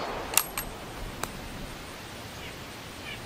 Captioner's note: gun bangs; gun cocking